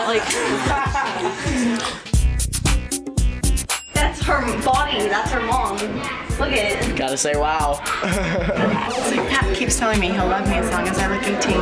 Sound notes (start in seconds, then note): 1.2 sighs